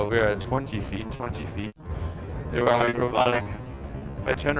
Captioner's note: crackles